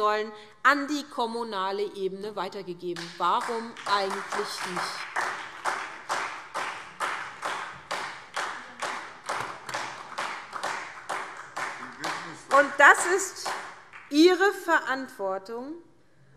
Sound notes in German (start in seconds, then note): 8.3 Beifall SPD